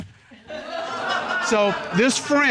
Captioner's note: audience laughing